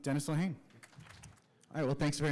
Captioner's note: applause